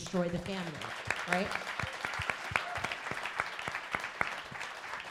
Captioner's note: crowd applauding